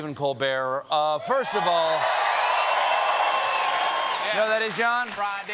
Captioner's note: cheers and applause